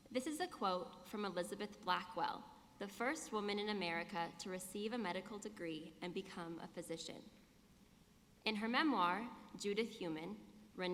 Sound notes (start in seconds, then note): none